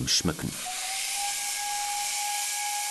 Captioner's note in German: Zugpfeifen